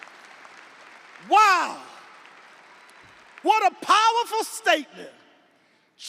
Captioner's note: audience applauding; audience cheering